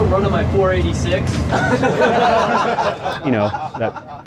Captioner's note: crowd laughing